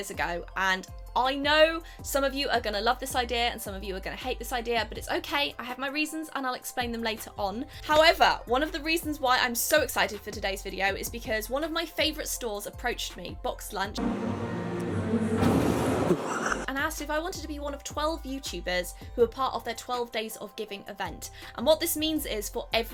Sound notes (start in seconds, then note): 13.9 christmas music; 15.3 laughing